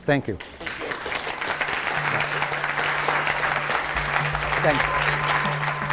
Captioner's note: audience applauding